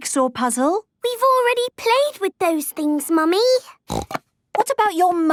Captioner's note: snorting